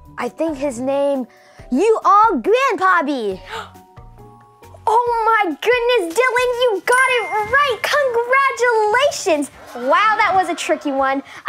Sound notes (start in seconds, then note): 3.4 gasping